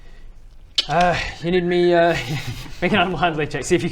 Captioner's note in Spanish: clics y silbidos